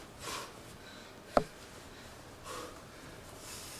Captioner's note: deep exhale